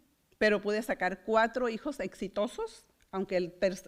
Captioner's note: foreign language